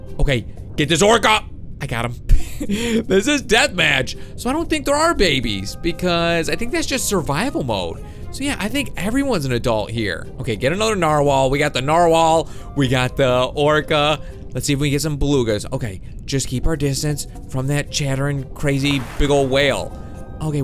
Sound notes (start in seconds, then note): 2.4 laughing